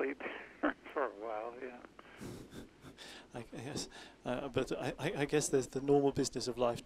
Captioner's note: laughs